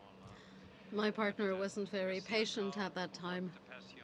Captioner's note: speaking French